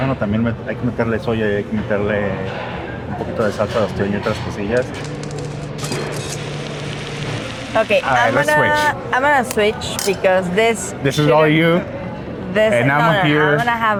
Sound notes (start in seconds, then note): 3.4 speak in Spanish; 6.0 pan sizzles